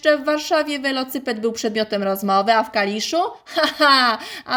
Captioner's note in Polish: śmiech